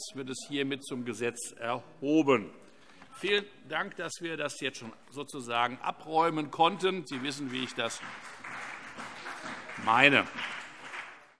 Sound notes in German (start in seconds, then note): 10.2 Beifall CDU und BÜNDNIS 90/DIE GRÜNEN